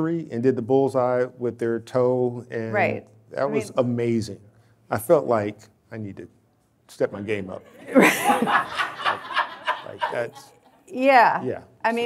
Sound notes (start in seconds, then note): 7.7 audience laughing